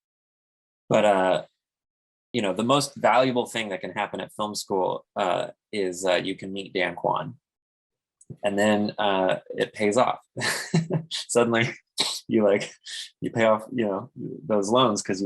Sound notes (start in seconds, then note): 10.3 chuckles